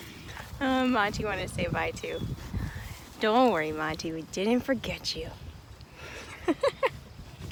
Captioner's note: laughing